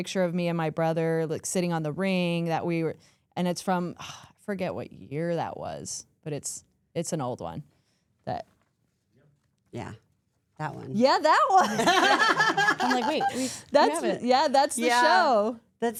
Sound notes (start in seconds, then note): 11.7 all laughs